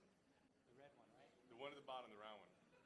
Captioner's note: voiceover